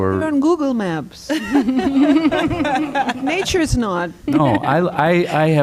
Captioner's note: laughter